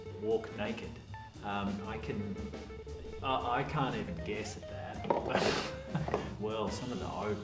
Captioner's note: laughs